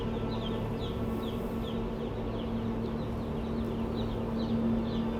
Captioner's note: chicks chirping